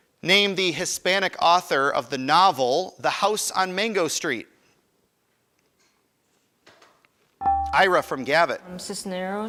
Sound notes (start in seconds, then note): 7.4 buzzer chimes